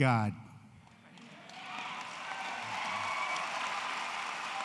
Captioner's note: applause